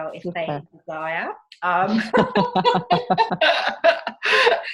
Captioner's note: laughing